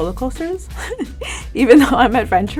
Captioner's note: Jillian laughing